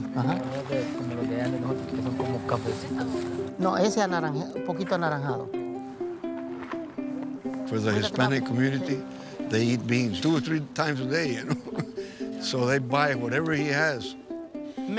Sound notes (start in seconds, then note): 0.2 customers speaking Spanish; 3.7 speaking Spanish; 11.2 laughing